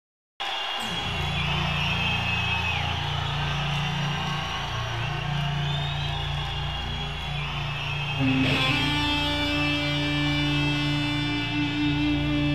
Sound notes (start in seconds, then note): 0.6 audience cheering; 8.2 soulful slow rock music